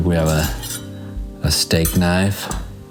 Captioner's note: knife clanging